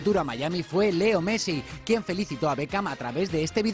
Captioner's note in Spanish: habla en inglés